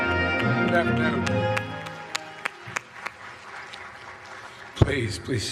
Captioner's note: applause